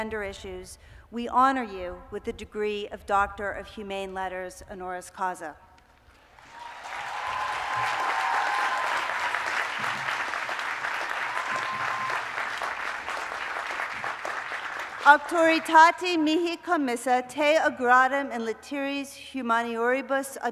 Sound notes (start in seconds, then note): 15.1 speaking latin